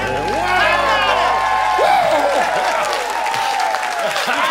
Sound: cheers and applause

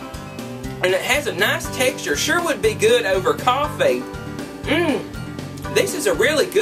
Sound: mmmm; mmmm

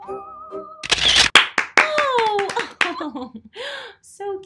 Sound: mom clapping

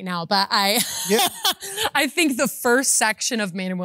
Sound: laughs

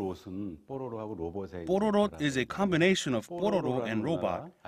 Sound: Korean

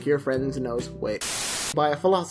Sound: static hissing

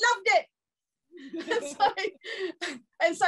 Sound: panelists laughing

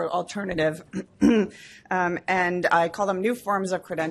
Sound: clears throat

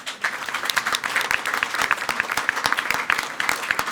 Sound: everyone applauding

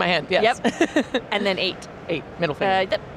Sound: laughs

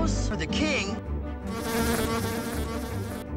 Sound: fly buzzing

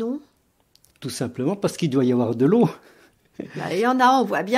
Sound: laughs

